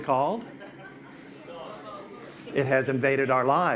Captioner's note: audience responds